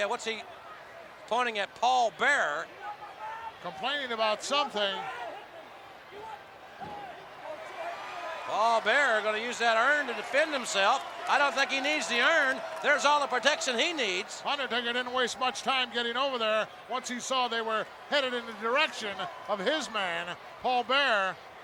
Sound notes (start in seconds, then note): 5.8 the Mountie yelling; 8.7 crowd cheering